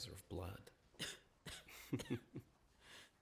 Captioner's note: coughs; chuckles